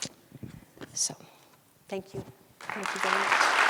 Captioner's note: audience applauds